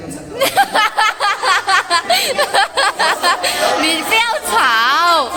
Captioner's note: gorilla laugh